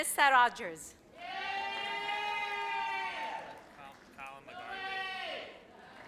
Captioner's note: audience cheers